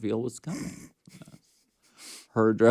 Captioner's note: Courtney laughs